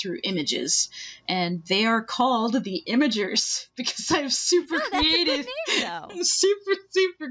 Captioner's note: laughing